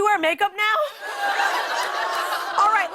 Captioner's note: laughter, groaning